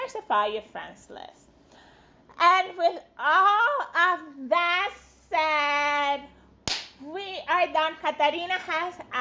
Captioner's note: claps